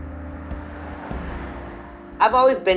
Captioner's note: car whooshes